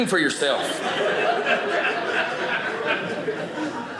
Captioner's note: audience laughing